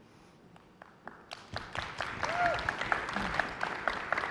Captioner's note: audience clapping